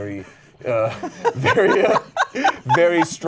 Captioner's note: laughs